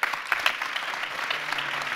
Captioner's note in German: Applaus